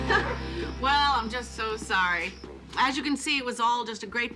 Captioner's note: laughing